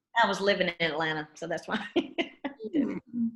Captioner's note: laughs